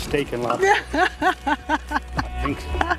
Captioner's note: laughs